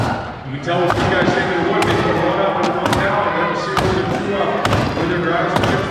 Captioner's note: announcer calling event while crowd cheers